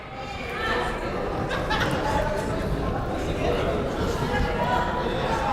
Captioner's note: crowd murmuring